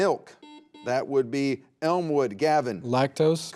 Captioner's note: buzzer beeps